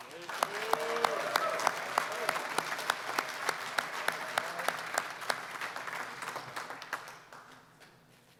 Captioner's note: applause